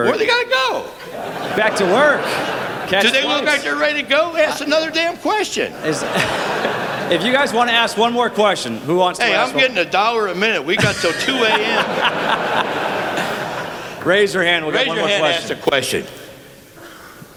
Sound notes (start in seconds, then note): 12.2 laughter